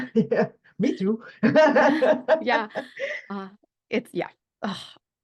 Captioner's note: laughs